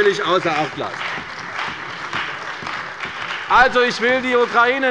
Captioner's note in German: Beifall bei der CDU und dem BÜNDNIS 90/DIE GRÜNEN